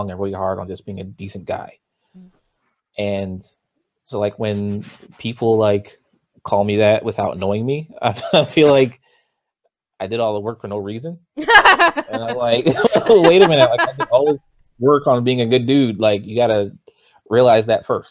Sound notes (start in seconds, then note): 8.8 laughs; 11.4 both laugh